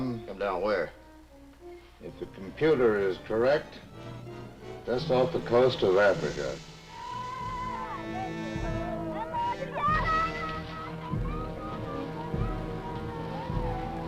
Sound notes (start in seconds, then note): 6.9 villagers shouting; 7.2 somber orchestral music